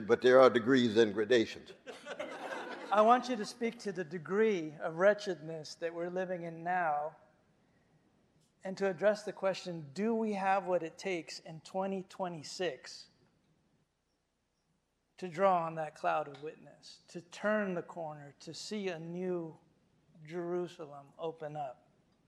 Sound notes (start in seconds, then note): 1.8 audience laughing